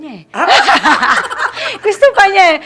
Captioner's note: laughs